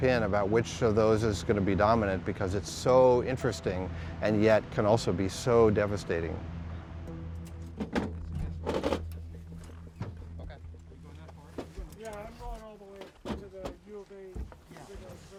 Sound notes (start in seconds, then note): 7.1 metal scraping; 10.4 people chattering